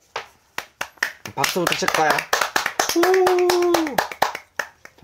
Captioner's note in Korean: 냅다 박수